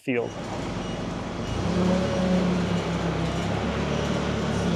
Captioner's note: machinery rumbles